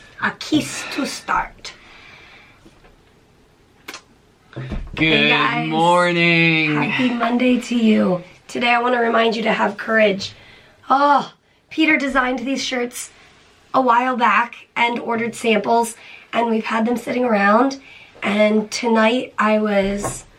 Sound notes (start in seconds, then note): 3.8 smooch